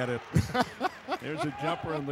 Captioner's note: laughs